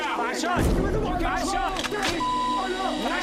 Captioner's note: gun cocks